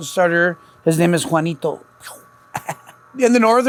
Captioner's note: laughs